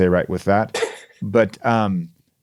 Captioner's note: chuckles